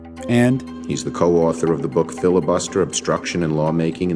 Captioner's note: soundbite of archived recording